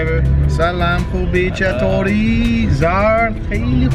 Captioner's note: foreign language